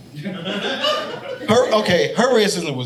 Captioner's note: audience laughing